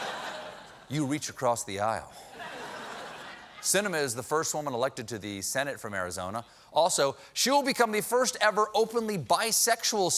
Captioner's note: laughter